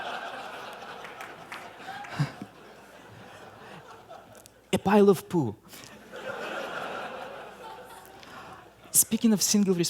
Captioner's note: laughter